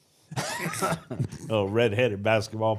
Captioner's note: group laughs